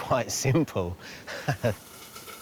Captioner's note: laughs